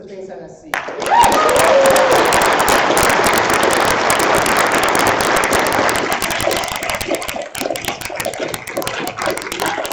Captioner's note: applause